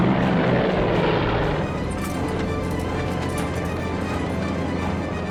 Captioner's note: rattling